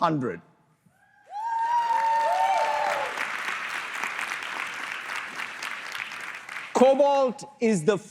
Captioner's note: applause